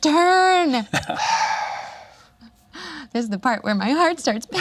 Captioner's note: exhales